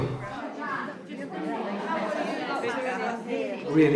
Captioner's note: room chatter